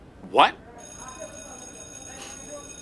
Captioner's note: distant bell ringing